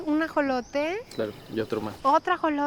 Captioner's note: speaking Spanish